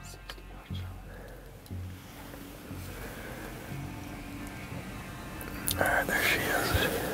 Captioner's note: whispering